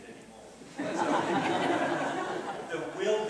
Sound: laughter

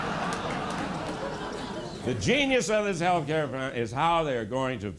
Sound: laughter

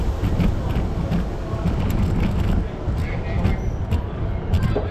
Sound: train starts; wheelchair moves

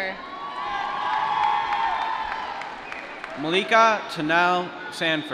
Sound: applause

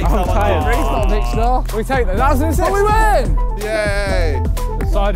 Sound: players clamouring

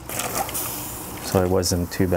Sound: sizzling sound

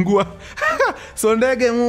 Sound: laughs

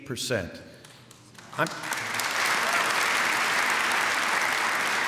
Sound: applause

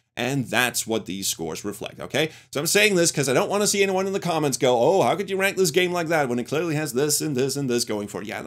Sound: none

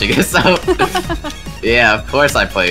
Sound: laughs

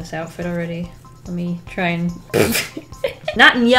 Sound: laughs

